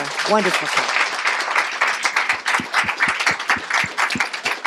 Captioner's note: applause